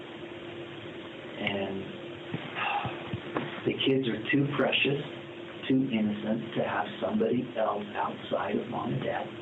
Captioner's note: sigh